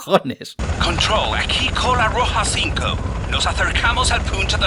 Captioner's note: with thick English accent